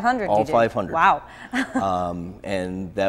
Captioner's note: chuckles